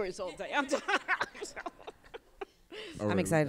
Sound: laughter

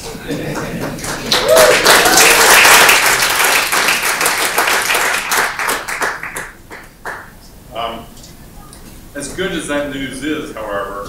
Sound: applause

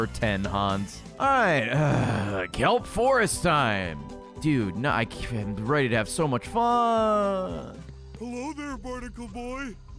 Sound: groans

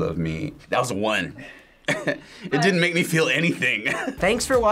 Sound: chuckles

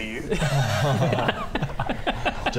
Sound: scared laughter

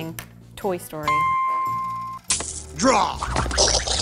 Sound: dings

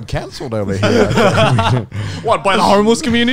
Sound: all laughing

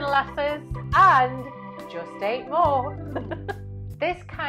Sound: laughs

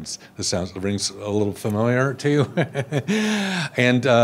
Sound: laughs

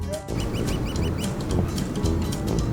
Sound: flapping

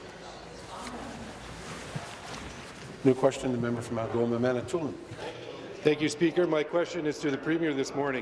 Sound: conversation din

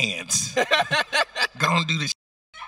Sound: host laughing

